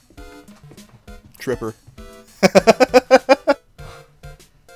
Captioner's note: giggle